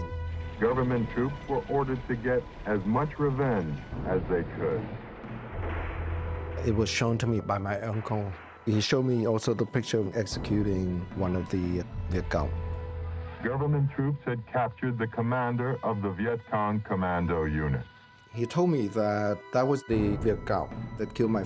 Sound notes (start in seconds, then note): 5.2 guns shooting